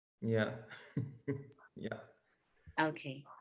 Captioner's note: laughs